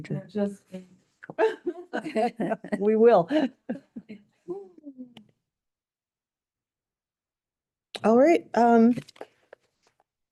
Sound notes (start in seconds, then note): 1.4 laughs; 4.1 laughs